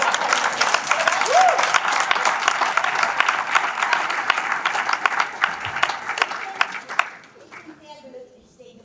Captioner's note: applause